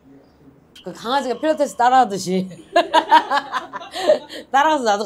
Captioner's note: wobbling